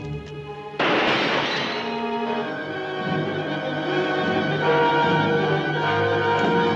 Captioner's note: gunshot fires; lightbulb shatters